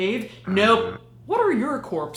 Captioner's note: buzzing